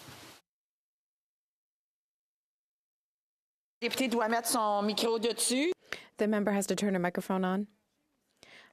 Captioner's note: speaking French